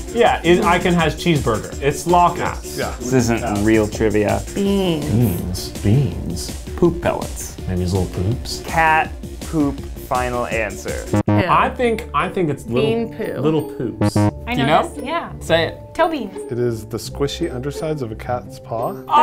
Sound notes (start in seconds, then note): 11.1 beep; 14.0 beep